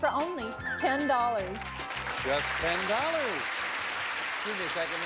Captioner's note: audience applauding